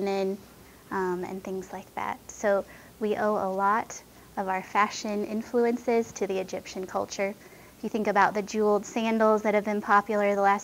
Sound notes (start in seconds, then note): none